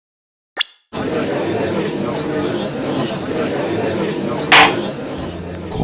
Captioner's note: gallery chattering; gavel slam!